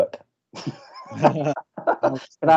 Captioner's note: audience Laughing